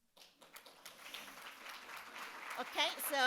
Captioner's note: audience claps